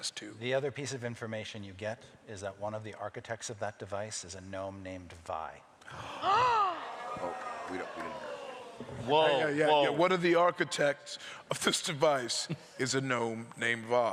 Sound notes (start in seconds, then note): 5.8 gasps